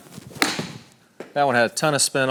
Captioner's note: golf ball thwacking